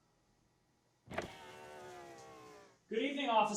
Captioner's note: car window rolls down